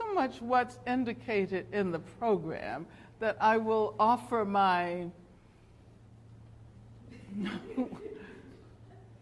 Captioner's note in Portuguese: risos